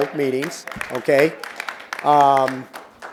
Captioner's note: applause